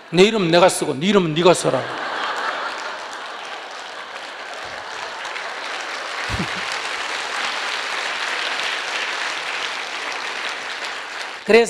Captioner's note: audience Laughter; audience Laughter/Applause